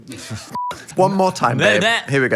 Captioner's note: beep